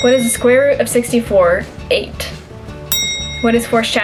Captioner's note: bell ring